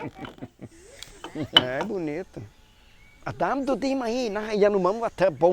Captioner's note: all laughing; speaking Yanomami